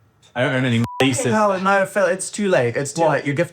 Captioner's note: beep